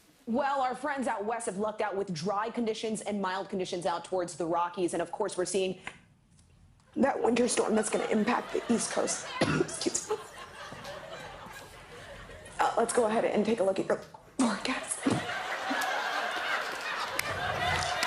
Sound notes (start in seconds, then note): 9.2 coughs; 14.6 laughter